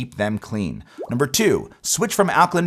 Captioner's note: graphics popping